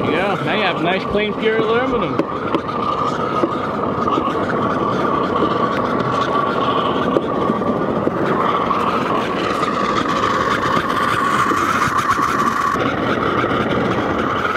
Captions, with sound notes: Yeah, now you have nice, clean, pure aluminum. (tapping) (fire roaring)